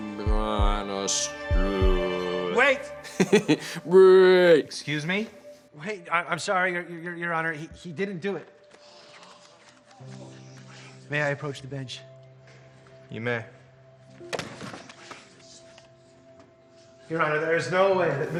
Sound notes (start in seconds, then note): 3.0 laughs